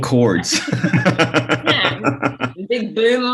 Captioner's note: laughs